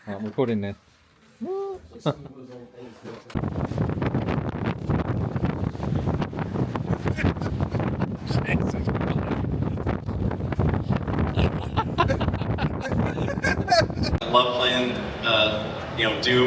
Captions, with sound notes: I'm putting it. (Crowd Chattering) I love playing Doom.